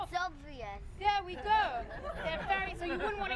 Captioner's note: crowd laughs